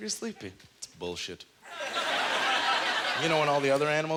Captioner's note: audience laughter